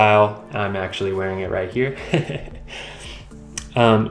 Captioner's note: dad laughing at myself